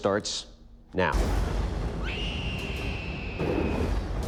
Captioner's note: woman shrieking; thunder rumbling